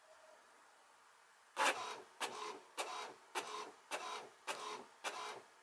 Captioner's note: printer grinding